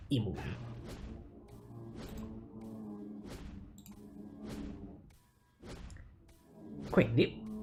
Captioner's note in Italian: Suono di trapani dal piano di sopra